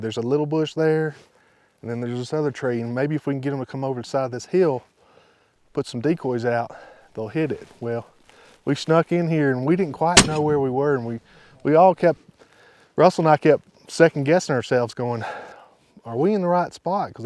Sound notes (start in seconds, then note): none